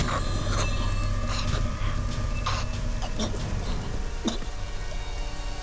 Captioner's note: Chico gasping